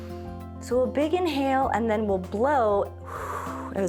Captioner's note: inhales; exhales